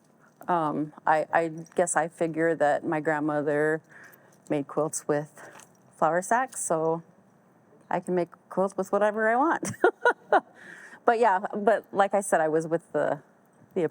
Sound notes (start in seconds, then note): 9.6 laughs